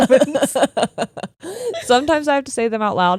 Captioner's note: laughing